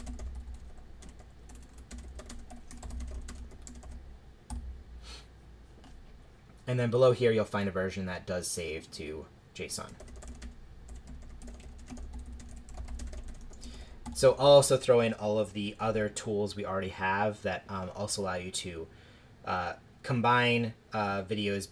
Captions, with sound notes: then below here you'll find a version that does save to JSON. [typing] I'll also throw in all of the other tools we already have that also allow you to combine videos